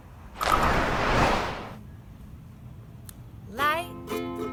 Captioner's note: whooshing